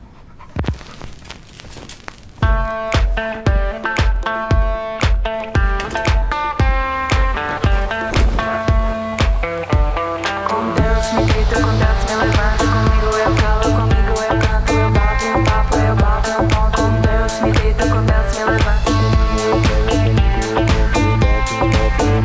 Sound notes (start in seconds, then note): 5.9 fan whirrs; 10.3 singing on record player: Com deus me deito com deus me levanto